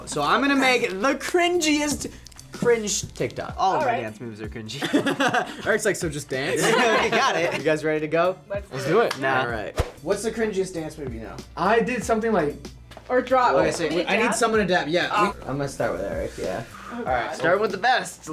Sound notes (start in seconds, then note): 4.7 laughs